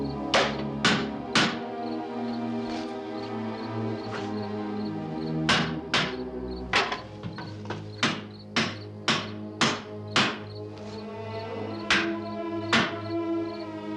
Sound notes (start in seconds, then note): none